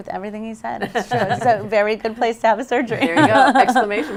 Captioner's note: laughs